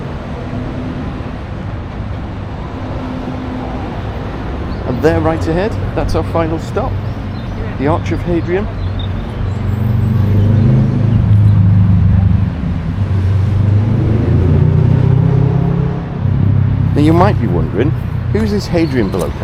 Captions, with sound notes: (people chattering) And there, right ahead, that's our final stop, the Arch of Hadrian. (engine roaring) Now, you might be wondering, who's this Hadrian below,